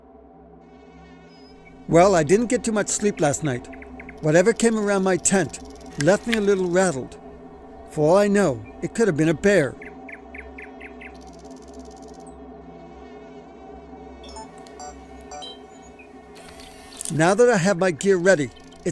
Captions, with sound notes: Well, I didn't get too much sleep last night. Whatever came around my tent left me a little rattled. For all I know, it could have been a bear. (Insects buzzing) (Beeping equipment) (Insects buzzing) Now that I have my gear ready,